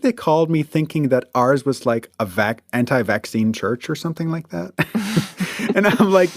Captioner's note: both laugh